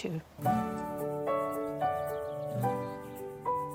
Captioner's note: none